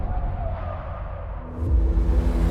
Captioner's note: tires screeching